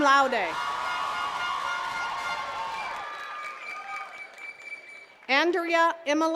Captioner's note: attendees cheering and clapping